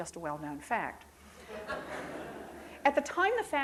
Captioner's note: crowd laughs